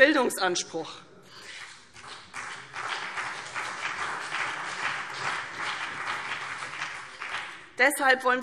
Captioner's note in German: Beifall CDU und BÜNDNIS 90/DIE GRÜNEN